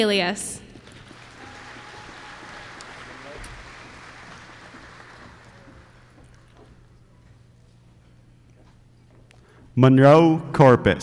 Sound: applause

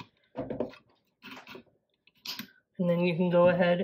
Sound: clips opening and closing

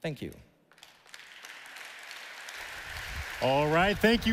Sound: audience applauding

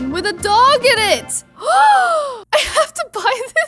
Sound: gasps

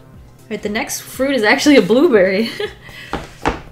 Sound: laughs

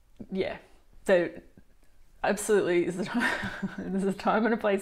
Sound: laughs

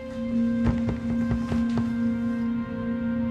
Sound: box shakes

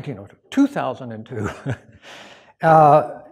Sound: chuckles

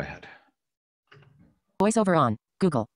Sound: automated Voice

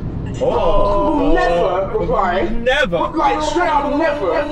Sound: group Chatter

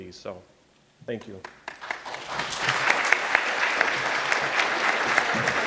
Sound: audience applauding

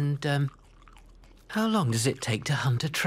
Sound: belches

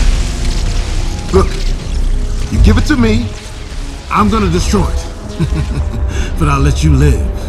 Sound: chuckles

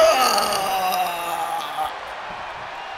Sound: applause

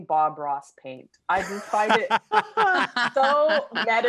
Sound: laughing

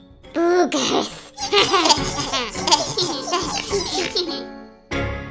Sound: giggling

